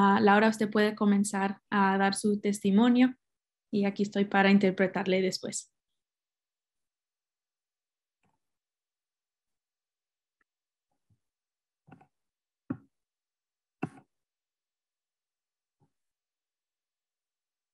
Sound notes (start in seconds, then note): 4.5 speaking spanish